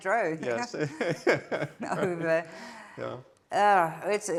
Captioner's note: laughs; chuckles